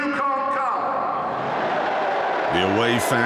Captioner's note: crowd boos